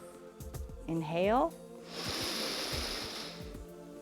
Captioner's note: inhales